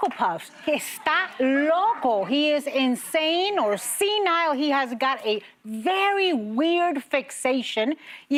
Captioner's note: applause